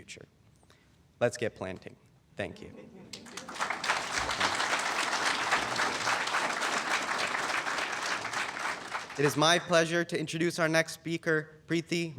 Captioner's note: applause